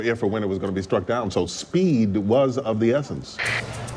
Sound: walkie talkie static

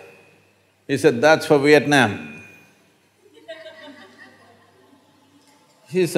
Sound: few laugh

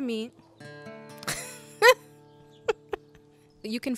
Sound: laughs

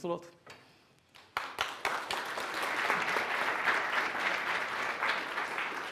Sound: audience applauds

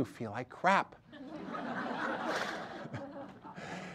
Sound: audience laughter

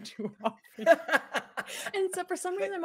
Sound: person laughing

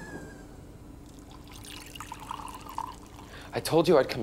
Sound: water trickling

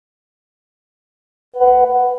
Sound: iphone notification sound; apple messenger sound

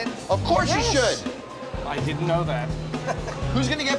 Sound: laughter

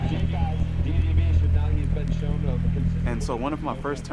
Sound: people cheering

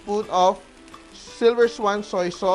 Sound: sizzle

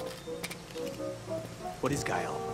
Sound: footsteps

